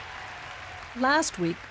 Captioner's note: audience laughs and cheers